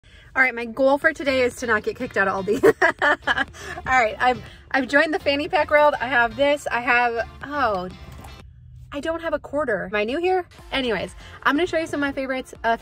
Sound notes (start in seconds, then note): 2.6 laughing